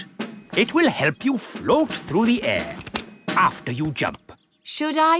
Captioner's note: clicking